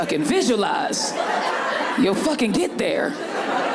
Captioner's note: audience laughing